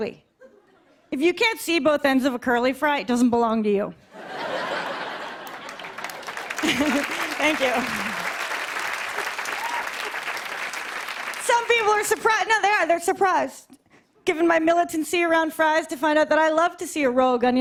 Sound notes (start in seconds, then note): 4.1 laughter and applause